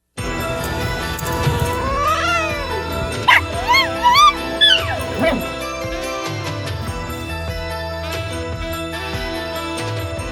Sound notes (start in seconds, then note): 1.2 hisses and then yowls; 3.2 barks then howls